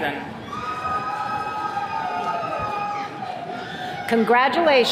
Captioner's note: attendees cheering